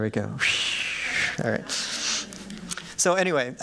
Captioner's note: laughter